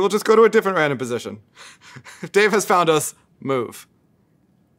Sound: laugh

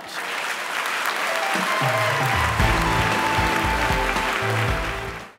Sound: clapping

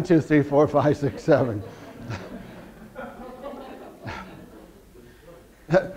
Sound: audience laughter

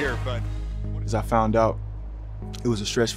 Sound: voice fades

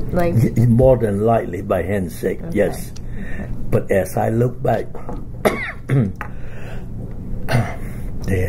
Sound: coughs

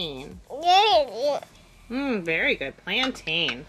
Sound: speaking gibberish

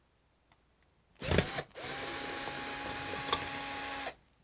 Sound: drill whirring

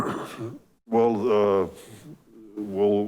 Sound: clears throat

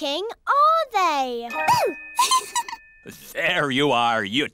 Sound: giggles

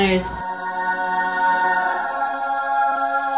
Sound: angelic sound effect

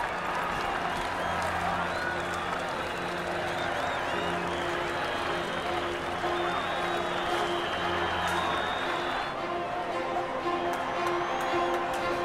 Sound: cheering

